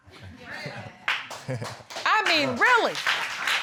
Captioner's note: applause